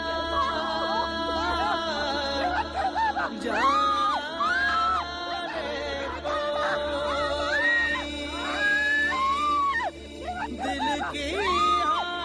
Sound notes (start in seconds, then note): 0.0 cries for help continue; 6.9 screaming for help